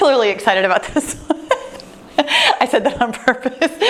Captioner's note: laughing